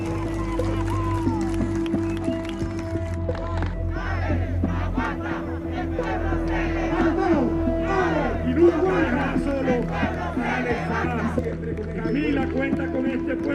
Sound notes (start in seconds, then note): 0.0 cheers and applause; 4.0 chanting